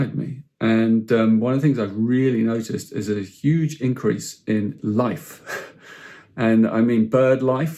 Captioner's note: chuckles